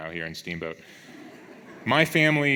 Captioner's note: audience laughs